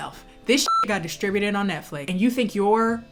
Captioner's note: beep